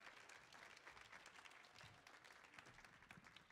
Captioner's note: audience applauding